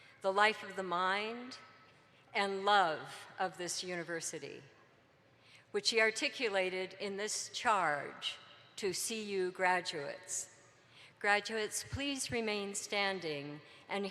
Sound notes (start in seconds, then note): none